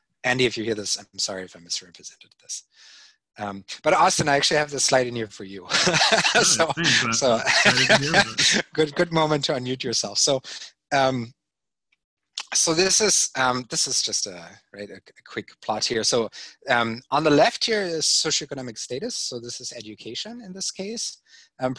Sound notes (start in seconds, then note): 5.6 laughing